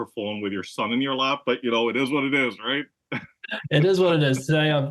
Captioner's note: laugh